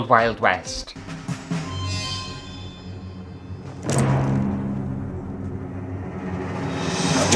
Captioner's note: dramatic Sounds; hat Whooshing